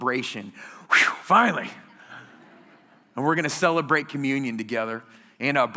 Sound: laughter

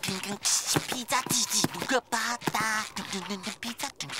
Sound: humming and beatboxing

